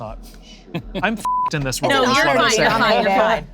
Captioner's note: beep